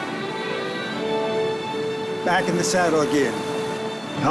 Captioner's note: laugh